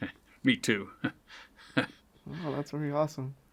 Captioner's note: chuckles; interviewer chuckles